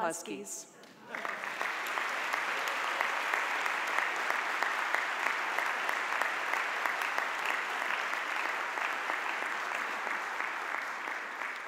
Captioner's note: audience applause